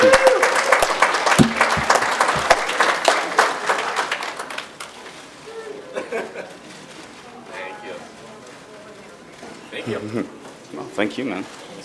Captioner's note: applause